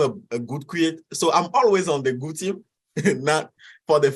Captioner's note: chuckles